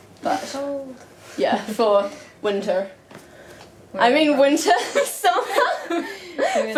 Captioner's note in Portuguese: risos